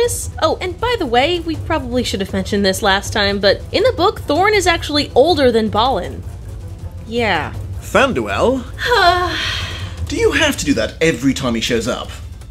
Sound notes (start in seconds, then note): 9.2 sighs blissfully